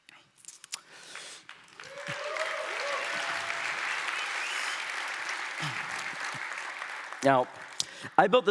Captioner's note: applause